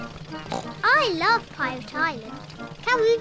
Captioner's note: oinks